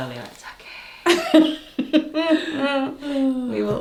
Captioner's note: laughs